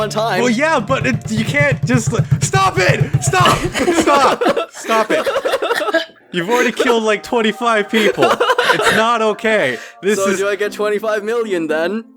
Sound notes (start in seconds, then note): 3.0 laughs; 3.2 laughing